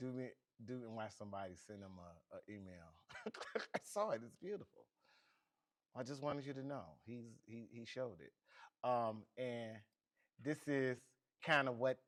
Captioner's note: laughs